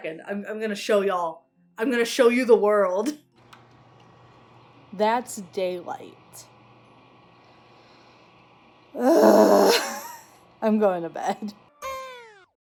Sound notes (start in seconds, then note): 8.9 groans; 11.6 kazoo buzzes